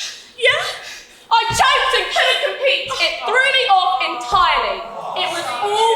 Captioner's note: audience awwws